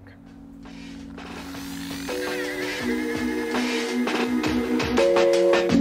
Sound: TORQ machine screeching

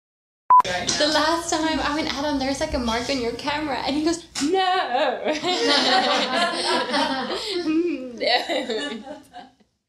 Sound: laughter

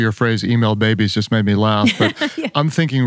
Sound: laughs

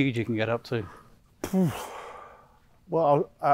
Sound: sighs

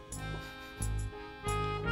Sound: sniffs

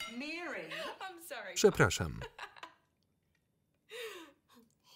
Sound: laughs loudly

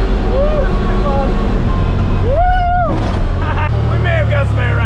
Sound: laughs

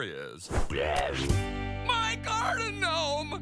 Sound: roaring

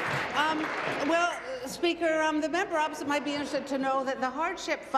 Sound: applause

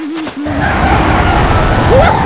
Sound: singing; whooshing noises

